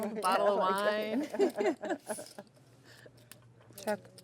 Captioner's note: laughing